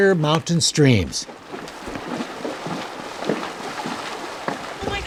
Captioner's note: water sloshing